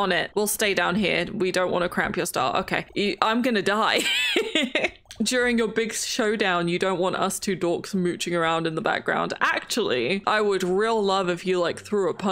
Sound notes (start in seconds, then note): 4.0 laughs